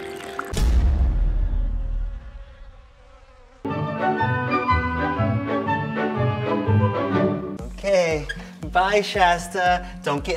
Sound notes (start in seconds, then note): 1.4 flies buzzing; 3.6 playful music